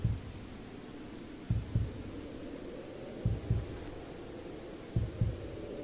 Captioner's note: muffled wind howls